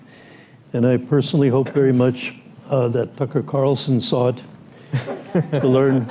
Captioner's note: laughter